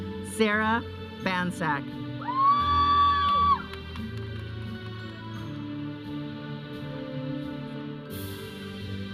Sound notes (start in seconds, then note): 2.2 audience cheering; 3.3 processional music